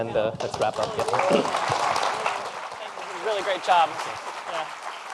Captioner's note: applause